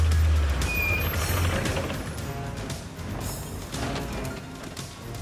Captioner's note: brakes squeaking